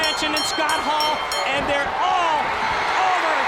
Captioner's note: bell ringing